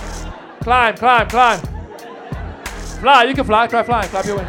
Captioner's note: audience laughs